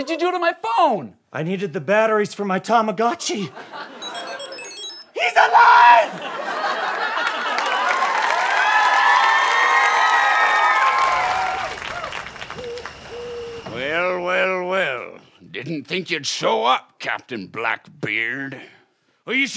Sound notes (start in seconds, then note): 4.0 bright electronic noise; 6.1 audience applause; 12.0 crickets chirping